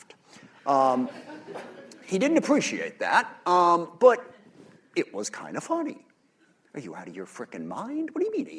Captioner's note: laughter